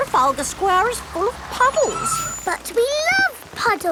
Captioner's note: tires screeching